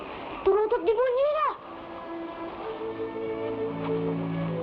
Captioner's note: boy speaking in Tagalog